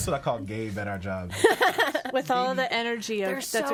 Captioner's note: laughs